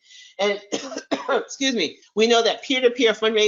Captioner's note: coughs